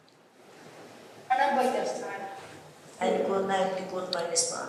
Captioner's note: non-english speech